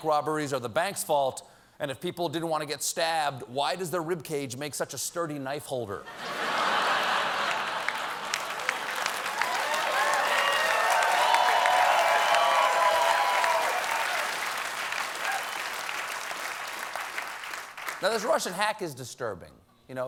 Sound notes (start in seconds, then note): 6.9 applause; 8.1 laughter